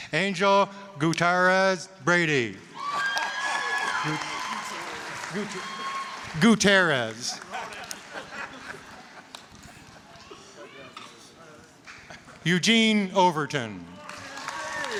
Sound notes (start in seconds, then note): 2.6 laughing; 2.7 applause, cheering; 7.3 audience laughing; 13.9 applause, cheering